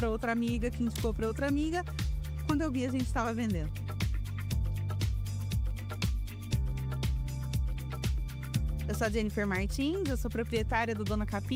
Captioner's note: speaking another language